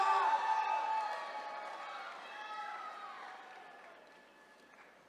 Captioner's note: attendees cheering